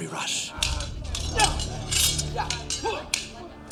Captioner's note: both grunting